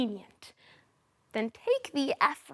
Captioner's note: soft breathing